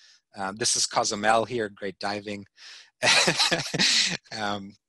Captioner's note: laughing